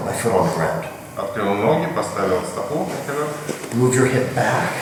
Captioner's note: speaking in a foreign language